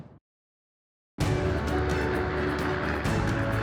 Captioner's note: helicopter whir; bold music